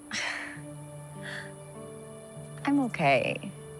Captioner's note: chuckling